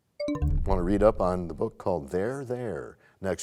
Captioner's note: bell chimes, time expires